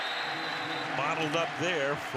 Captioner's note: whistle blows